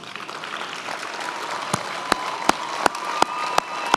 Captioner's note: many applauding